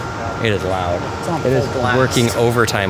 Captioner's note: mumbles